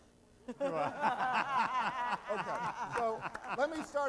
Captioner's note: laughter